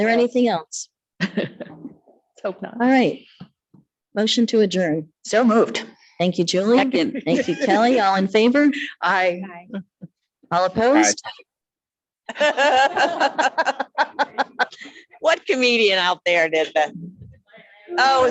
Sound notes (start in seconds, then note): 12.3 people laugh